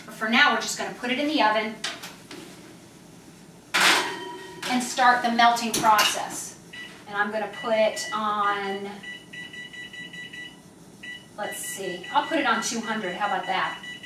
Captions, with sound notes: but for now we're just going to put it in the oven (tray clatters) and start the melting process. And I'm going to put it on (oven beeps) let's see, I'll put it on 200, how about that?